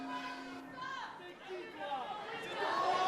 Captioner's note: bell ringing